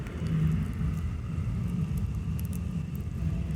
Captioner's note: crackling sound